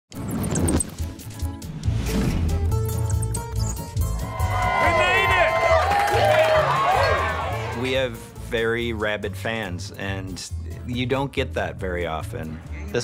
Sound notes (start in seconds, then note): 0.0 bats squeaking; 4.2 cheering